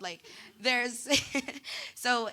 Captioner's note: laughing